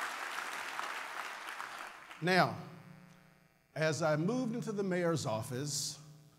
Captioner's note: applause